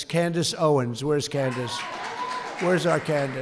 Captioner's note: applause